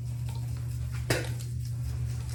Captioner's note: brushes swishing